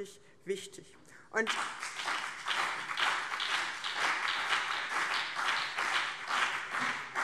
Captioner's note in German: Beifall BÜNDNIS 90/DIE GRÜNEN und CDU